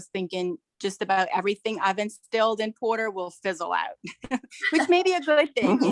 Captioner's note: laughs